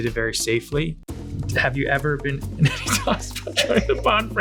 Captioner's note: laughs